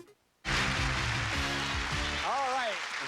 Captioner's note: cheers and applause